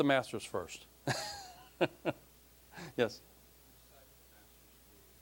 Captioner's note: laughing